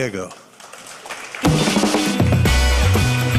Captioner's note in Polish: oklaski